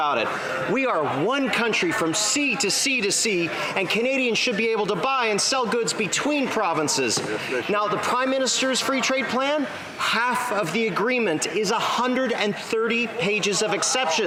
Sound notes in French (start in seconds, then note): 1.5 voix de l'interprète